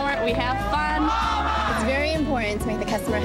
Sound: employees cheering

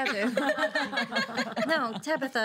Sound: girls laughing

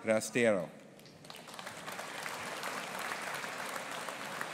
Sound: audience applauding

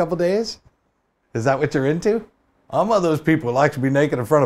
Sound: southern accent

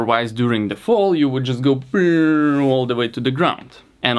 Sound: vocalizes

